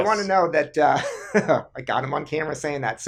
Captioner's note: laughing